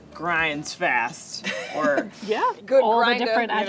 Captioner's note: laughs